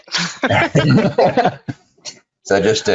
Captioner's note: both laugh